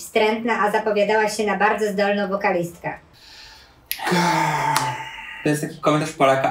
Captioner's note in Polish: westchnienie